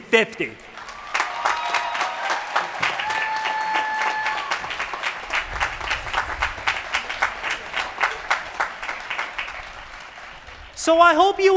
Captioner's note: applause